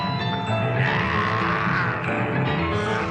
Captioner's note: weasels growl and snarl